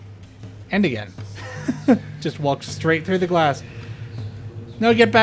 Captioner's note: laughter